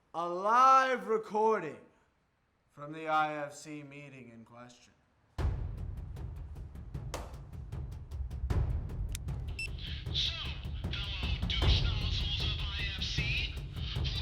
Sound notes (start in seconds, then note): 5.3 dramatic drum music; 9.6 recorder beeping